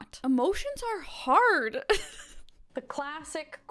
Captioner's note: laughs